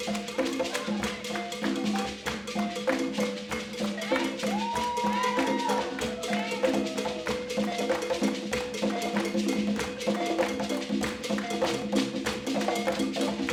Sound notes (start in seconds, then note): 0.2 upbeat balafon music continues; 3.9 people cheering